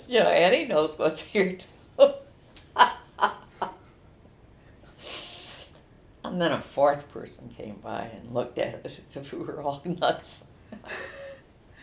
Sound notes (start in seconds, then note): 2.6 laughs